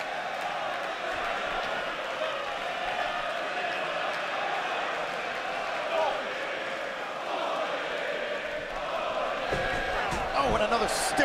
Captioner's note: cheers and applause